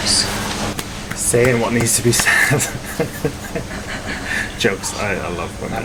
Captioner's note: laughing